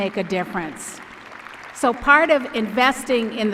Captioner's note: applause